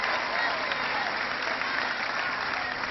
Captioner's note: cheering